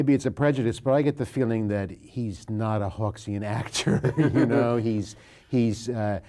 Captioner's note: laughs